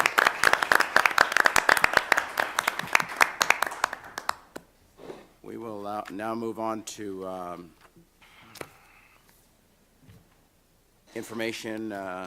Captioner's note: applause